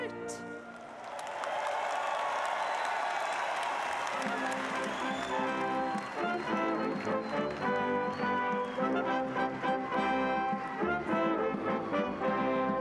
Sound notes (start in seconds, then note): 3.5 applause